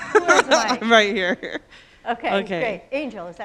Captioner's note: laughs